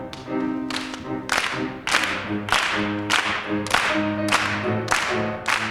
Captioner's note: performers clapping rhythmically